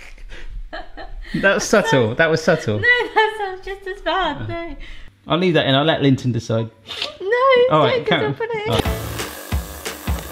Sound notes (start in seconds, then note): 3.5 laughs